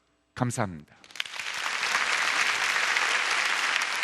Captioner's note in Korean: 박수